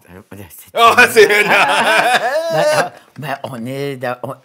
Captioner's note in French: rires